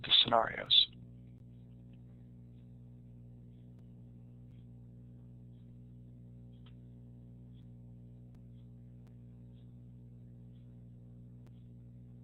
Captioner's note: silence